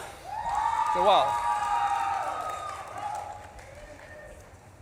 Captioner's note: audience claps and cheers